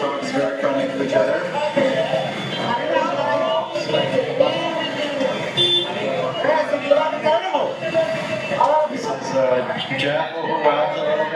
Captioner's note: sounds of the street, cars beeping, people talking